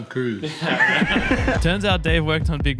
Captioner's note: chuckling